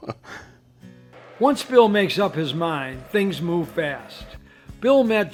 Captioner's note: chuckles; voiceover